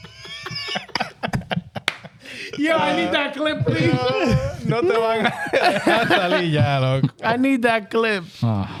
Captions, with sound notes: Yo, I need that clip, please. (Speaking In Foreign Language) I need that clip.